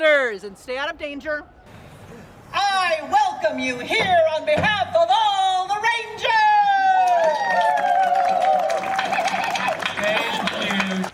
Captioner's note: applause